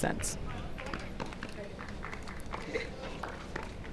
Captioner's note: light applause